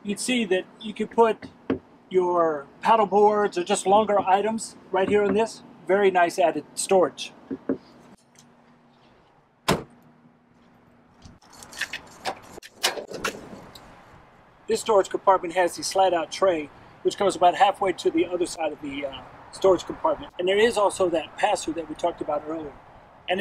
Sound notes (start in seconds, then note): 9.6 door clicking shut; 12.8 tray sliding open